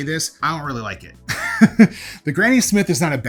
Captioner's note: laughs